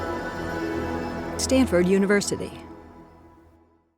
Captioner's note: Animaker Voice